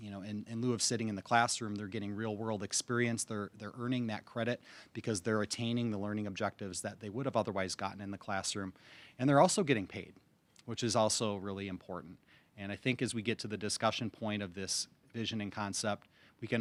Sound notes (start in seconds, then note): none